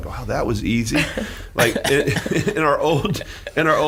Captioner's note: laughing